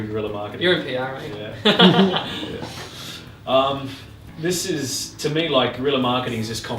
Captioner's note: laughing